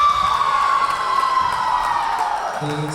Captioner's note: cheering; whistle blowing; cheering